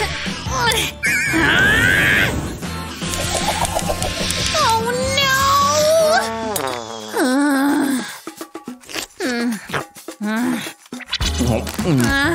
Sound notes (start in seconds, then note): 1.1 groans; 2.7 making irritated sounds; 8.9 sighs; 9.4 grumbles